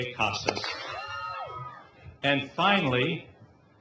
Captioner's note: clap